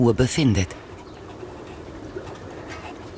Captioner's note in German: Wasserplätschern